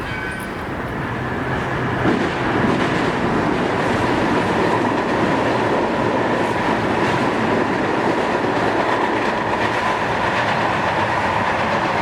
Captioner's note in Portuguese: som de trem